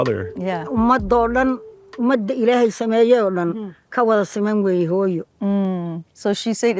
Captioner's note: mother speaks in foreign language